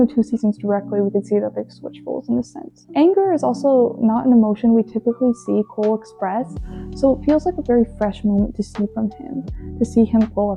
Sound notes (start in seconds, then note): none